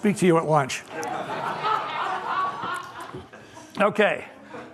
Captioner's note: laughter